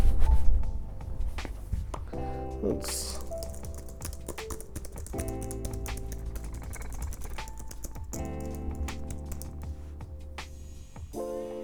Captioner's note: keyboard clicking and clacking as I do gumshoe investigative Googling